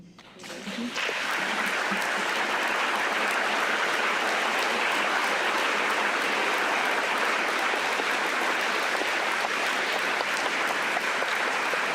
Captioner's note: applause